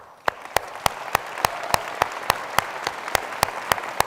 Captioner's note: applause